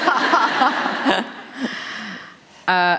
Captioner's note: laughter